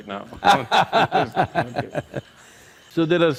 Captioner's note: Sadhguru Laughs